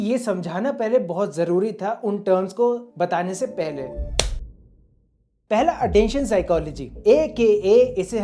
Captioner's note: slap sound